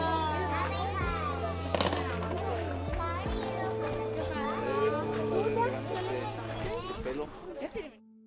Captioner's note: chatter of children speaking in Spanish